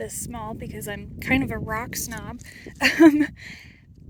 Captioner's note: laughs